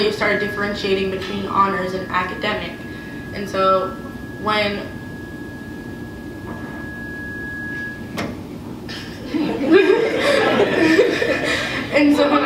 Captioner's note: mic feedback, laughter